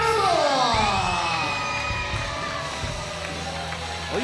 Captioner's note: cheers and applause